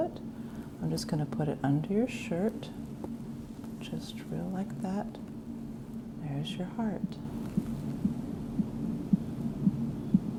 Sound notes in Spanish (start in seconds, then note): 6.9 Sonidos del latido del corazón, luego acordes de una guitarra; 7.0 Sonido del latido del corazón